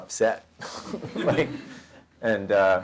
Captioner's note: audience laughter